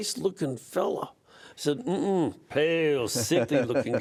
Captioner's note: laughter